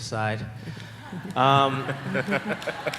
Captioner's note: laughter